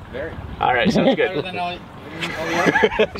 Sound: laughs

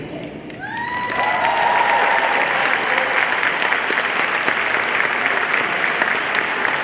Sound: audience cheering and applauding

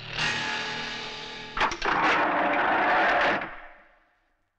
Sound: door Opens

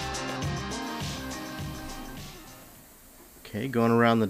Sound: spray gun hisses

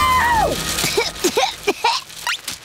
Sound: coughing

